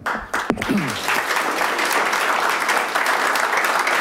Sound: audience applauding

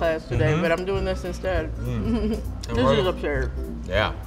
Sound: laughs

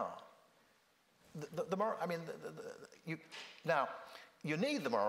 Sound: stammering

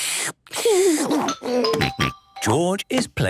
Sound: slurping; giggles

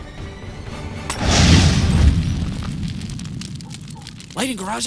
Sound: explosion; fire; glass breaks

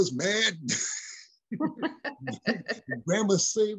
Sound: laughing

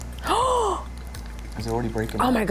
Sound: gasps

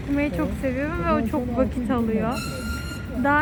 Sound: tram sound

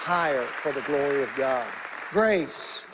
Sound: congregation applauding

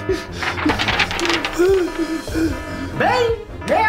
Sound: panicked breathing

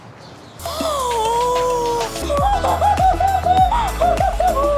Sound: gasping loudly

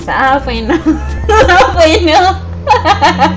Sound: laughs

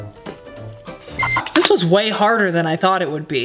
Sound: beep

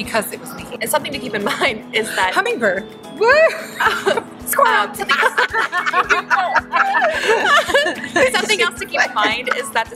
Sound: laughing

